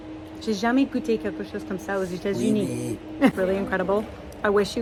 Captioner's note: speaking in French